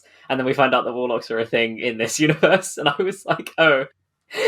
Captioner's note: laughing